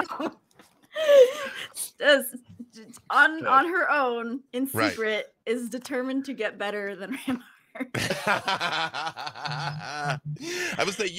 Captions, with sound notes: - (laughs) on her own, in secret, is determined to get better than (laughs) Rampart. - (laughs) I would say,